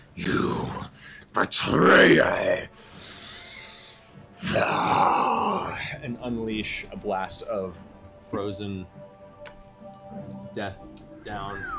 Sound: roars

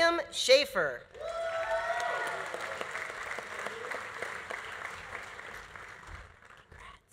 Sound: audience cheering; audience applauding

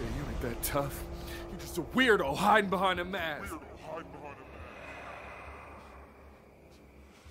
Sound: voice echoes

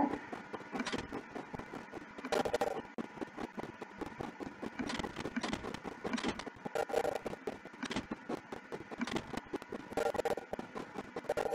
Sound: clicks repeatedly; sound of locomotive

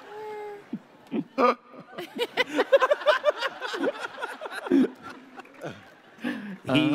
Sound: laughter

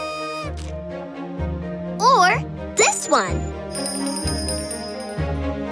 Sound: honking; ringing

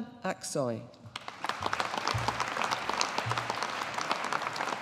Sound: audience applauding

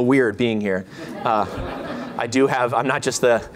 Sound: laughter

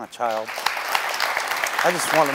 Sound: audience applauding

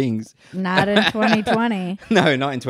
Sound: laughs loudly

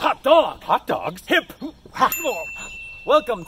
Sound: ding

